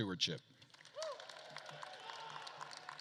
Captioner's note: attendees applauding; attendees cheering